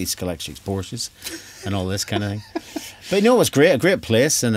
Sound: laughs

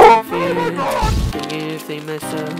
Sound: footsteps; boom

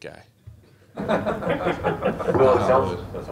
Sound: laughter

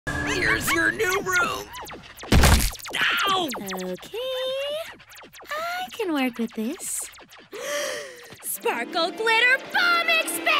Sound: screaming

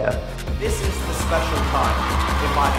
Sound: cheering Crowds

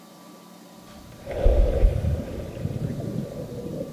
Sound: splashing

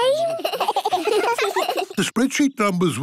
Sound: giggling

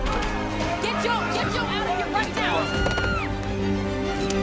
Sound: screaming

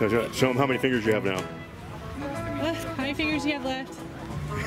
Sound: voiceover

